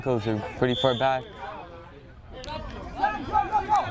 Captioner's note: whistle